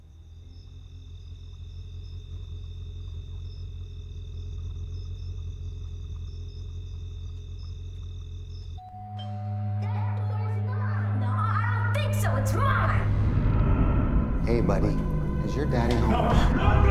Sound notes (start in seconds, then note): 1.0 crickets chirping; 8.8 doorbell rings